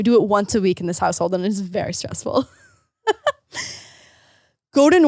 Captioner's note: laughing